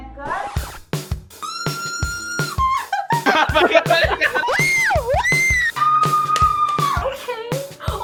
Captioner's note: fans screaming